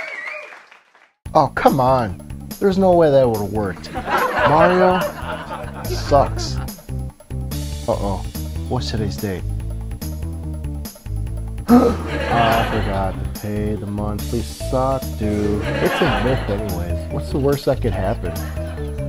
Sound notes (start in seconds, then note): 3.7 laughter; 11.7 gasp; 11.7 laughter; 15.3 laughter; 18.2 laughter